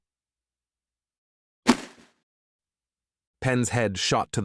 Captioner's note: thud…